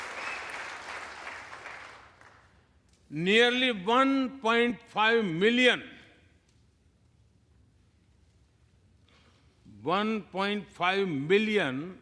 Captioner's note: applause